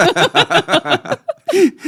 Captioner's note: laughter